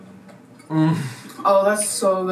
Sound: moans

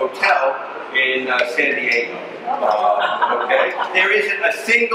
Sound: audience laughs

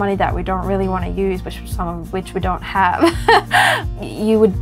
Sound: laughs

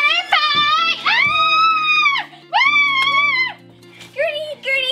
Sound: Gertie screaming

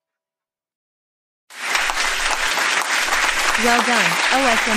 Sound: applause

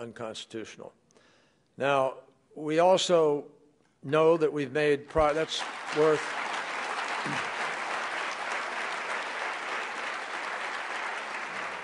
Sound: applause

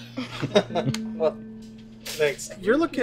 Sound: laughs

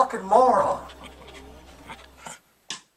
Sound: sniveling

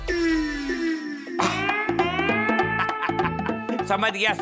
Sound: laughing

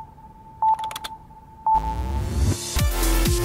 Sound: tone beeping; keyboard clattering; upbeat music

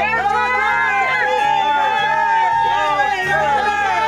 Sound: cheering

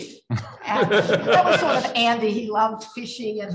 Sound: laughs

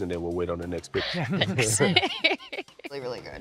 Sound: laughing

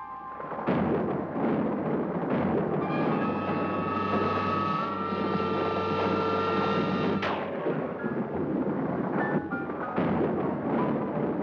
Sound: suspenseful music; thunder rolls

